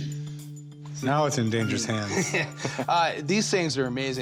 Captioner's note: laughs